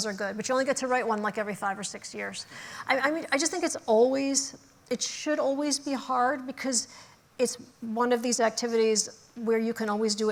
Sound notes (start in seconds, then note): none